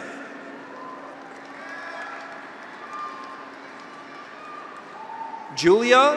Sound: graduates cheer; audience applauds

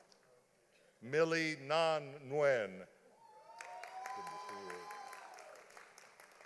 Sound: audience applauding

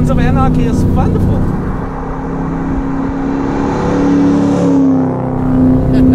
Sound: The sound of The Hulk puking

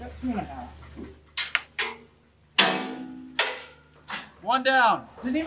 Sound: screw clinks as it falls

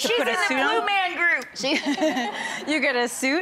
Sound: audience laughing

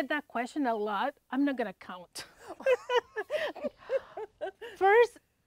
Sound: both laughing

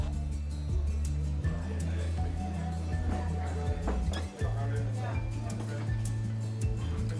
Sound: diners murmuring

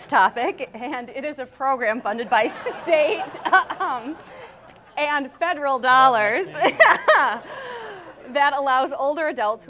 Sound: laughs; audience laughs; laughs

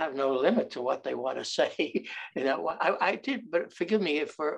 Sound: chuckles

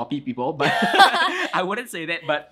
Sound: both laugh

